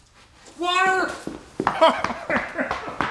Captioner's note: indistinct crying